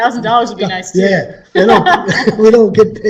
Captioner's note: laughs